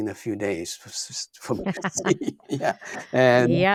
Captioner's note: laughing